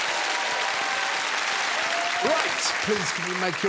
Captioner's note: applause